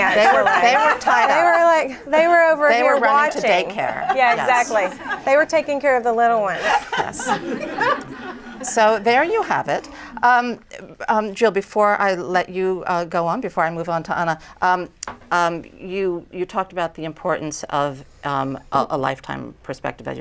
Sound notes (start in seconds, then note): 3.8 laughter; 6.5 laughter